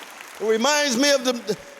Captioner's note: applause